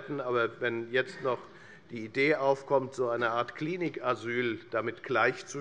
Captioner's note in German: none